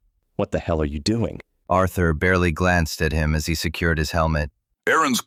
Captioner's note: agitated